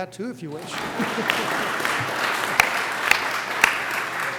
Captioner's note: applause